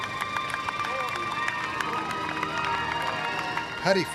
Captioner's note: applause